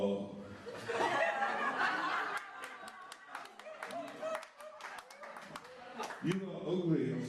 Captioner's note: laughter and Applause